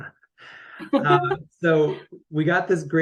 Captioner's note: chuckles